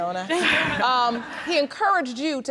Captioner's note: all laughing